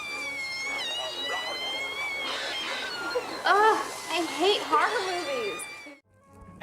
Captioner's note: screaming on TV